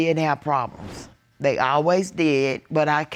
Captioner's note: none